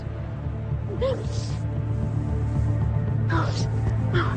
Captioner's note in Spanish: Sollozos